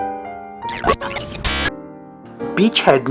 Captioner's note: radio static